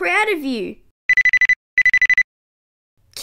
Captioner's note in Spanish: Teléfono que suena